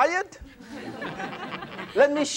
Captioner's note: laughter